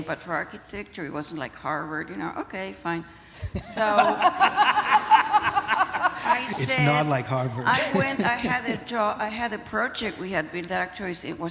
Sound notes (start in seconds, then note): 3.4 laughter